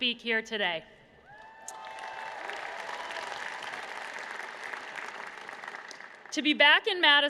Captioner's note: applause